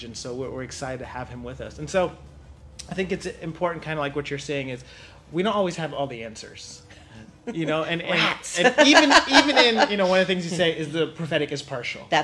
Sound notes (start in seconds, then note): 7.4 laughs